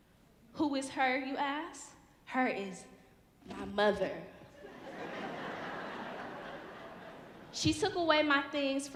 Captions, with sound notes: Who is her, you ask? Her is my mother. (audience laughing) She took away my things